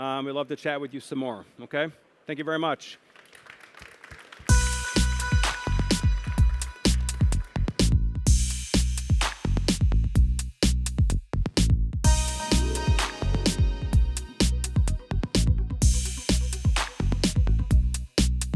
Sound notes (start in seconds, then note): 2.8 applause